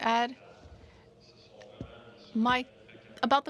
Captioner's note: speaking French